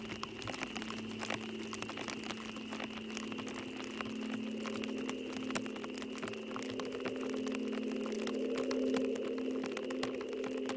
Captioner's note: fire crackling